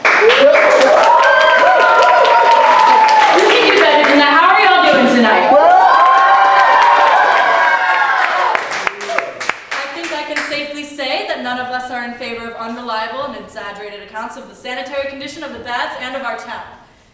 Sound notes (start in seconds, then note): 0.0 applause; 4.8 cheering